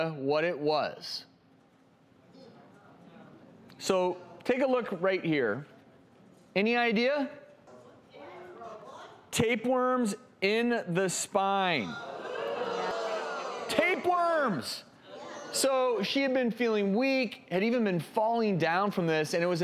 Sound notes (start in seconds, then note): 11.9 audience ohs